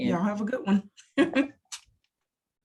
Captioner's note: laughs